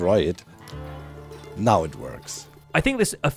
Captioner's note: flint and steel snaps